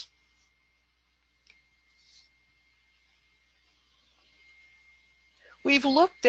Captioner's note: silence